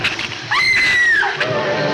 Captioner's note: Ann screams; dramatic orchestral music